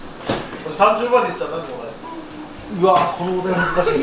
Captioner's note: laughs